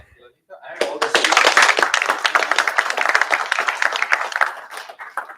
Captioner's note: applause